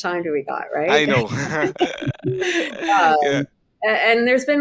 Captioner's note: all chuckling